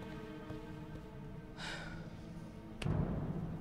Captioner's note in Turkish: Nefes sesi